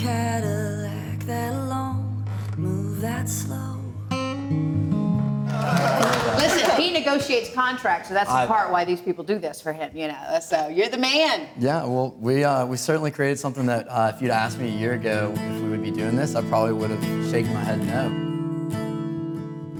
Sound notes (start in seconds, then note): 0.0 acoustic guitar; 5.4 audience applauding